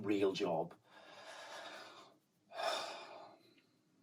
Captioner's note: sighs heavily